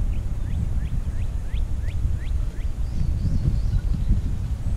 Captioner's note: birds chirping